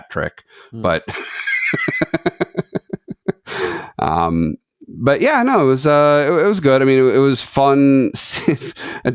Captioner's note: laughs